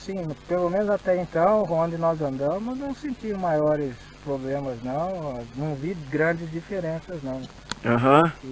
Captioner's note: dirty speaking